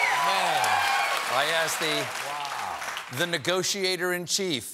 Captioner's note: cheers and applause